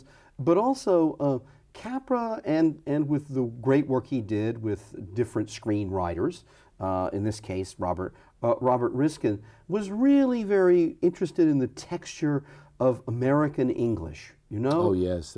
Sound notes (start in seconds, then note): none